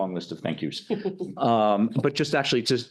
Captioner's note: laughing